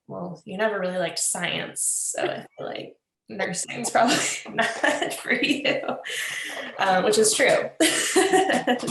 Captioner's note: laughter